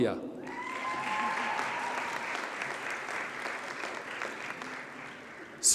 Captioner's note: audience cheers and applauds